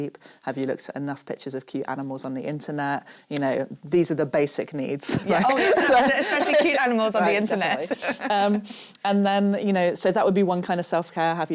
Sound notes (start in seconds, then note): 5.2 laughs; 7.3 chuckles